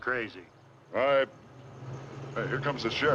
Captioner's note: engine revs